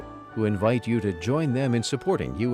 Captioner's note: voiceover